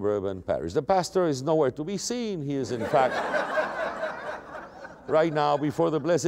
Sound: laughter

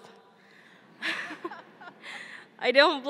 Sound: laughing

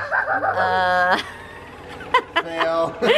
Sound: kids cheering and laughing

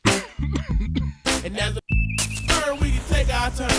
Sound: coughs; tweets

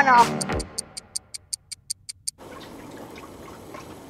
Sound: watch ticking; water splashing

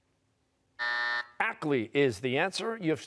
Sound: buzzer

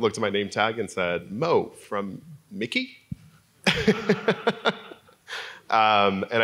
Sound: laugh

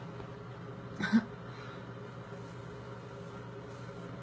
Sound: laughs

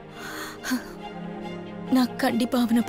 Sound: sighs

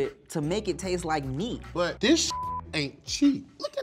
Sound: beep

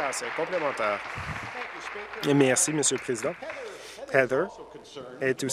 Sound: applause

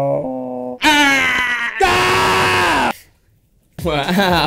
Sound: makes strange noises; screams

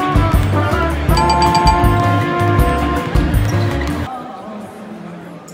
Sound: bell dinging

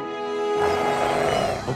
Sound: gulps; growling

